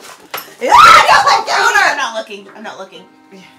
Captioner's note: shrieks